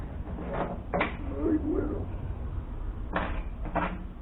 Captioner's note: exclaiming